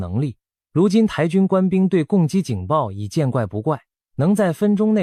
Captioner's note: Taiwanese